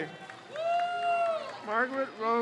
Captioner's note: crowd cheers